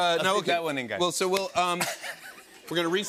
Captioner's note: laughter